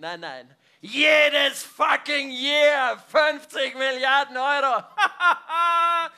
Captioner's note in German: lacht